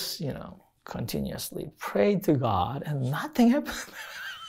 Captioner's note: laughs